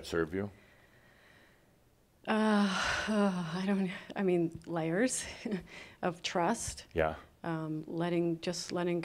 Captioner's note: she sighs